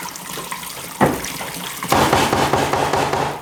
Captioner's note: splashing, hammering